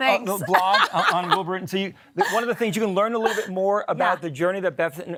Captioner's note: laugh